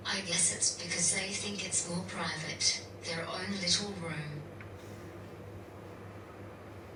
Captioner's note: none